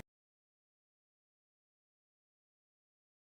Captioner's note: silence